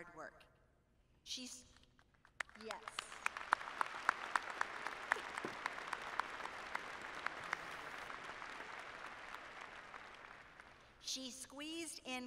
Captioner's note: applause